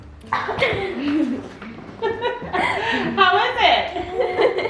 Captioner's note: laughter